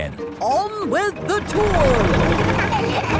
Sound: laughing

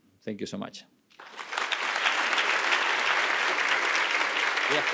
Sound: audience applauding

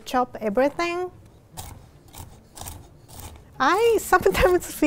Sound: chopping

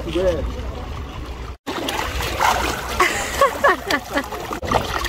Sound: splashing

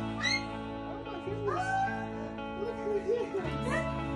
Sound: dog barks; dog squeals

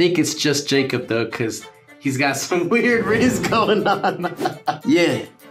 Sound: laughs

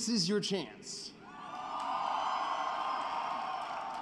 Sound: cheering and applause

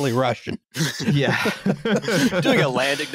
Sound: chuckles; laughter

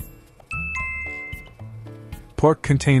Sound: chime

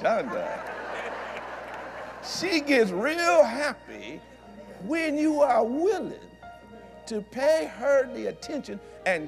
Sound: laughter

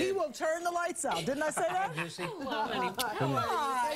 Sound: laughter

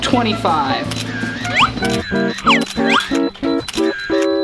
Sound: camera Clicks

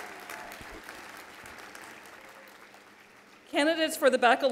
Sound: applause

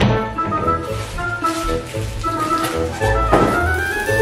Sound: plastic crackling

